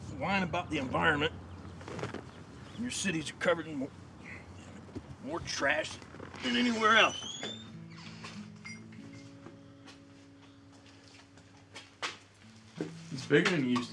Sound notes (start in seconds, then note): 7.8 soft gentle music; 7.8 door creaks